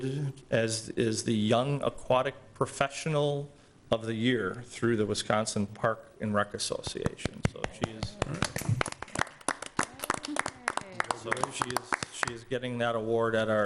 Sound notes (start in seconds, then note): 7.6 applause